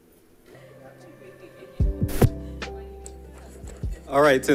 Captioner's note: group chattering